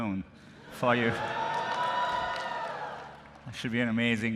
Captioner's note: cheering